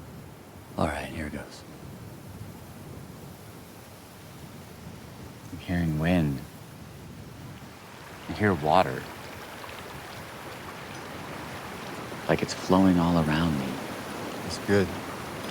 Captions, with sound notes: - All right, here it goes. (wind whistling) I'm hearing wind. (water flowing) Can hear water. Like it's flowing all around me. - That's good.